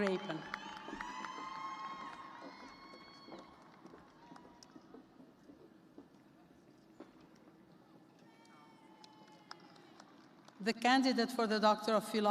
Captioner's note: cheers and applause